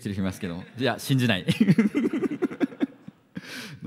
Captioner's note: laughs